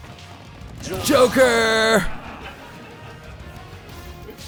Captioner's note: laughter